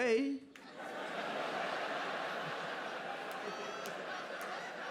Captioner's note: audience laughing